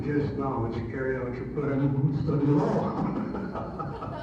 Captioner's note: audio distorts; laughs